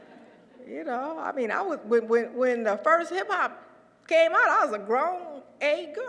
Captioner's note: laugh